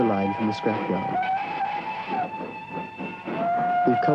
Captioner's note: train horn